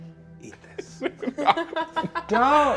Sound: all laugh

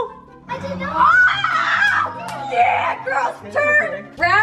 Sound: screams

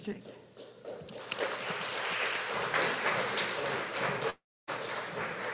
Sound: audience applauding

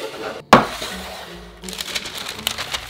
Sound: pan sliding; paper rustling

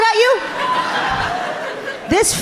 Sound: audience laughing amusingly

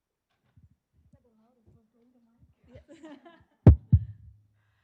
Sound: panelists chatting

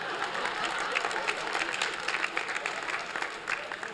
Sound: laughter; applause

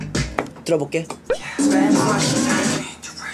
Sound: answering in a sexier way

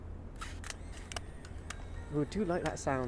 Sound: shutter Sound

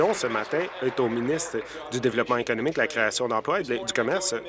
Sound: applause

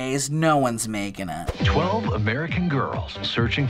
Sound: voice-over

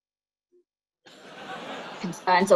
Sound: laughter

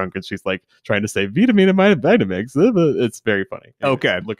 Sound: slurs words

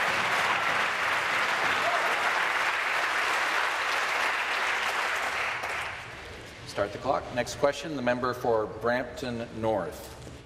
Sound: applause

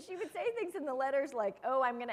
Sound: laughter

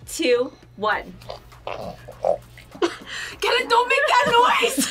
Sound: growls

